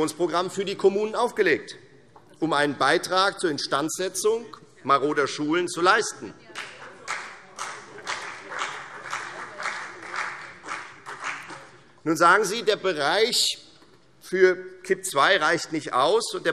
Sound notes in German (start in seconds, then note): 6.5 Beifall Freie Demokraten und CDU